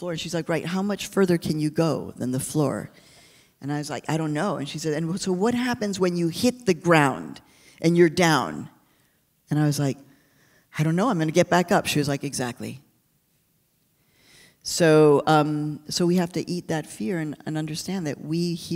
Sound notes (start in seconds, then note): none